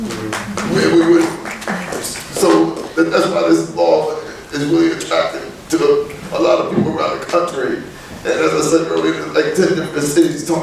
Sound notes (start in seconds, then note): 0.0 clapping